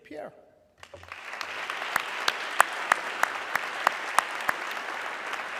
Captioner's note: audience clapping